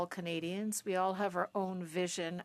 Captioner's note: speaking French